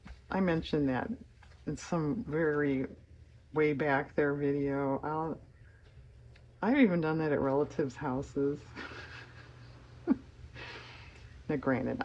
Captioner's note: laughs